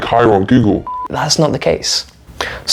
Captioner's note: beep